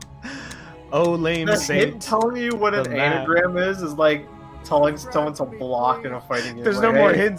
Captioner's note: wistfully